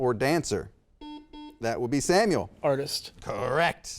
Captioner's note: buzzer beeps